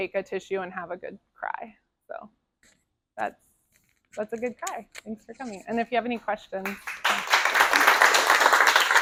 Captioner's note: applause